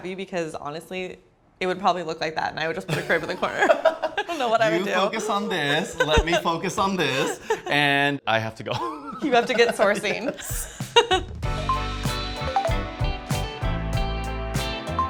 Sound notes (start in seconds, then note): 2.9 laughs